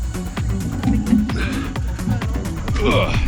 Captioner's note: upbeat music continues; heavy breathing; panting